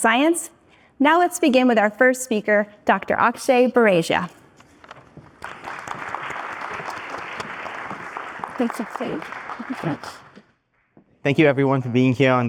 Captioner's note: applause